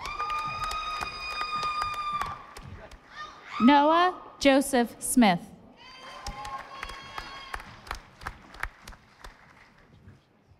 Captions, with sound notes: (audience applauding) Noah Joseph Smith. (audience applauding)